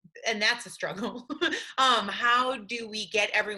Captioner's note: laughing